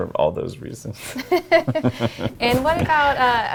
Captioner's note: laughs